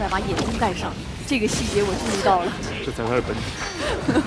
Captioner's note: laughs